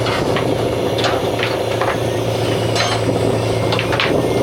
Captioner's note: engine revving